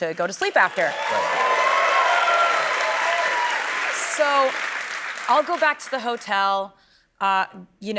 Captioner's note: cheers and applause